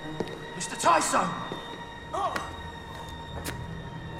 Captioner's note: orang mengerang